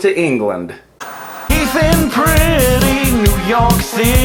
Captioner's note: static crackles